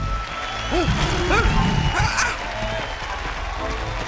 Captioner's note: rugido del león